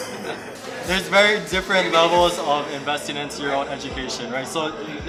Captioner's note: laughs